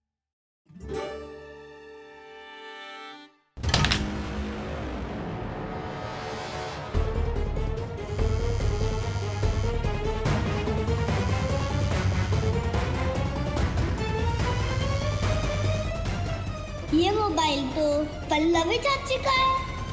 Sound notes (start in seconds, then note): 3.4 thud on the ground; 8.0 phone vibrating